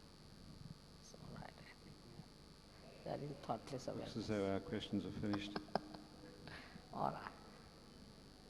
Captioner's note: shri mataji laughs